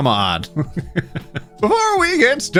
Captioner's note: laughing